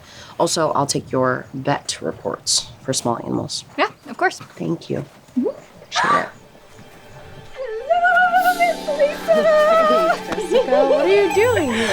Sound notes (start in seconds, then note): 6.0 dramatic music; 6.2 Jessica gasps